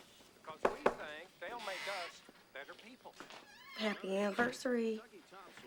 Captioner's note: knocking on door